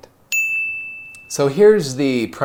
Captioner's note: bell rings